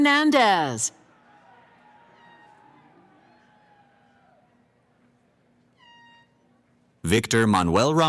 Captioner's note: cheering